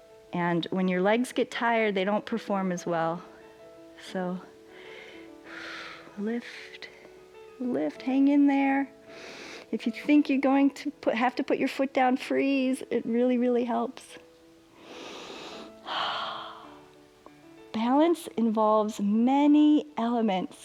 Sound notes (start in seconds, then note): 9.1 inhales; 14.8 inhales and exhales